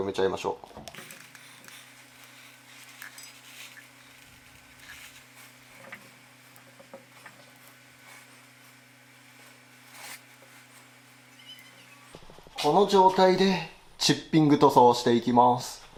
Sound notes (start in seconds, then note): 0.8 working sound